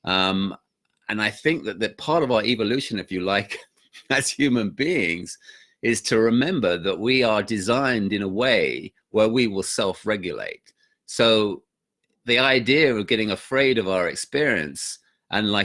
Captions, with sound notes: Um, and I think that part of our evolution, if you like, (laughs) as human beings is to remember that we are designed in a way where we will self-regulate so the idea of getting afraid of our experience and